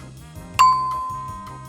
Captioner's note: ding!